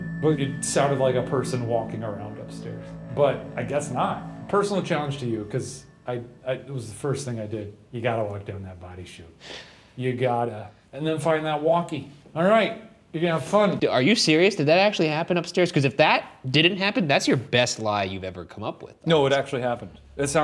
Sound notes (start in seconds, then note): 9.4 sighs